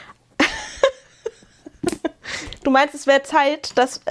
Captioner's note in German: gelächter